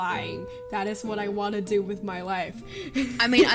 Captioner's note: laughs